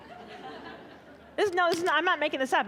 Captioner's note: audience laughing